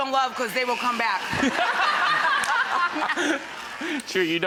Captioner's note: laughter